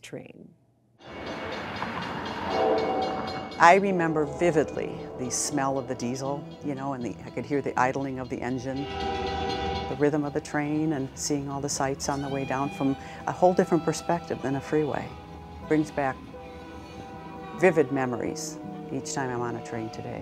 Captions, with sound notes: with the Ghost Train. (bell clanging) - I remember vividly the smell of the diesel, you know and I could hear the idling of the engine. (train whistles) The rhythm of the train and seeing all the sights on the way down from a whole different perspective than the freeway. Brings back vivid memories each time I'm on a train today.